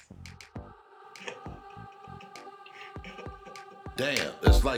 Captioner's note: devious laughter